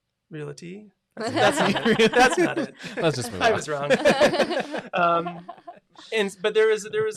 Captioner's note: laughs